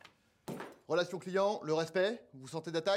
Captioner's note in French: fracas